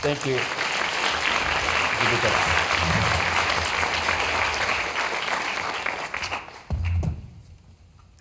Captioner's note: applause